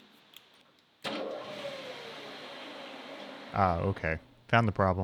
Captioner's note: machine revs